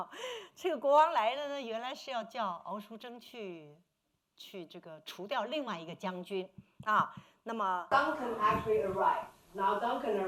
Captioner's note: speaking Mandarin